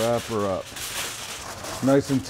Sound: foil clanging

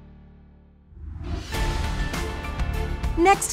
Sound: upbeat music fading; whooshing; upbeat music

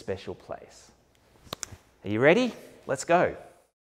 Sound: snaps

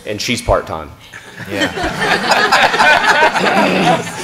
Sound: laughter

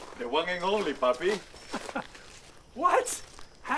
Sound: laughs

